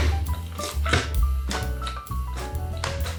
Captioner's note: thud